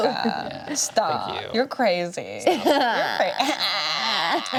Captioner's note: laughs; braying laugh